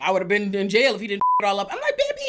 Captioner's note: beep